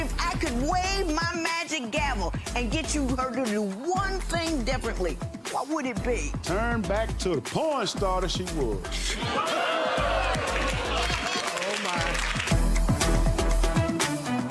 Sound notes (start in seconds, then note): 9.2 audience oohing; 9.2 audience clapping